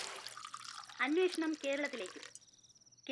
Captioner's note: TV news